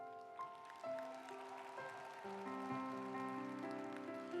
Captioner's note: audience applauds